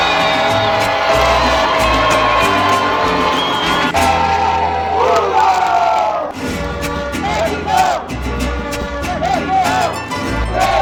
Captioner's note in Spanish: grito